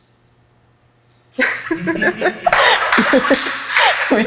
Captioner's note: both laugh